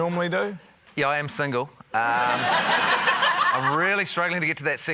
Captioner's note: laughter